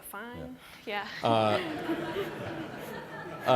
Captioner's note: laughter